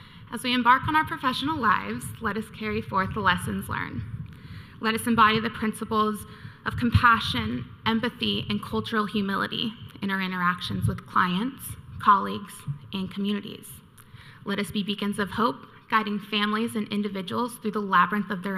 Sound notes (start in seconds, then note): none